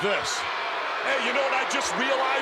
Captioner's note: crowd boos